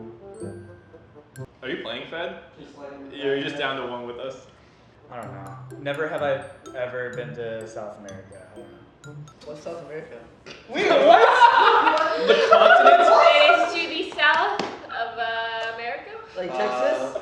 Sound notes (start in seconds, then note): 10.8 everybody bursts out laughter